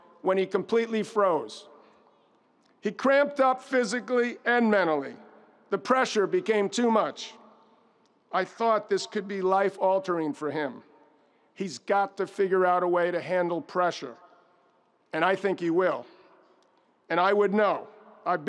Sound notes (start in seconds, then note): none